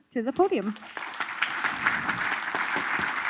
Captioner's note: applause